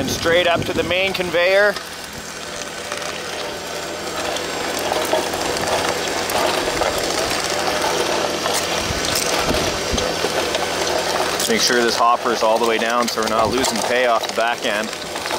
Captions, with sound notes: and straight up to the main conveyor. (machine engine roaring) Make sure this hoppers all the way down so we're not losing pay off the back end.